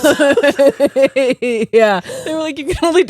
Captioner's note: both laughing